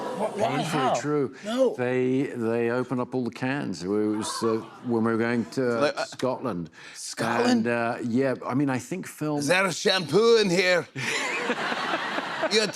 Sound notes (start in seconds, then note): 9.2 Scottish accent; 11.0 laughter